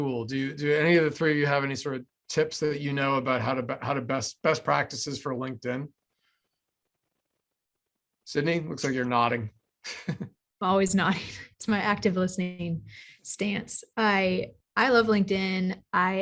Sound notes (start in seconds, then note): 9.8 chuckles